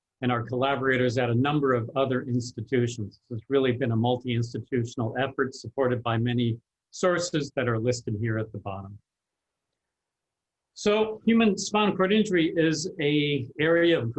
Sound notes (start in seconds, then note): none